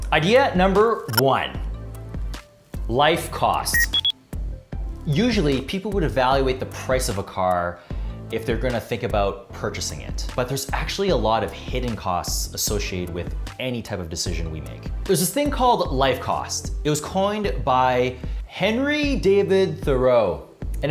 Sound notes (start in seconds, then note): 3.7 electronic beep